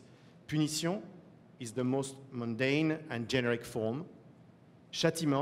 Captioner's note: french